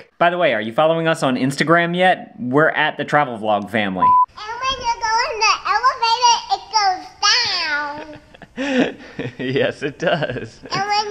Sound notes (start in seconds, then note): 4.0 beep; 8.0 dad chuckles